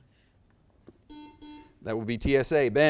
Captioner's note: buzzer beeps